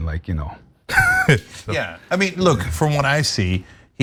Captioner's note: laugh